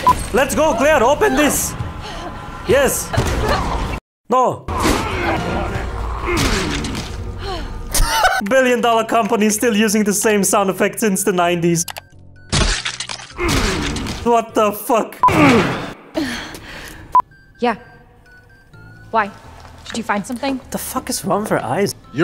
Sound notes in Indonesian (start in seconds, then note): 6.3 Splat